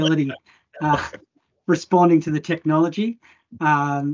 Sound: laughs

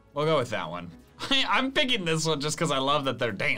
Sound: laughs

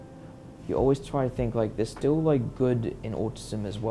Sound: none

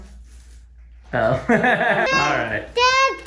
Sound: laughs

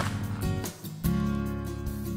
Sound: loud crack!

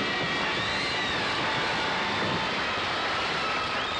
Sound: audience applauding

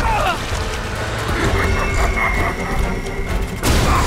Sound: cackling

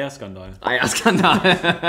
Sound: laughs

